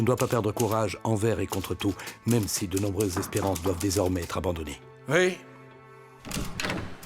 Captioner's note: knock on door